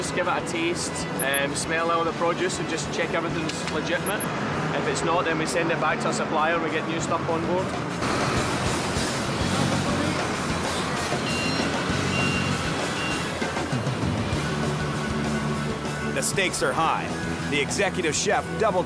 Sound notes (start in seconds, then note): 7.7 engine revving; 11.1 forklift beeping